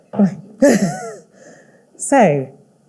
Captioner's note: laughing